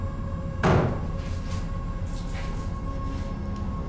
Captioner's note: object bangs